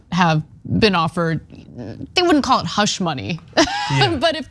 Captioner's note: laugh